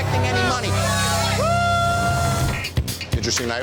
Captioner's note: patron cheering